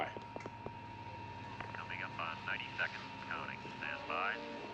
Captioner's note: man Over Radio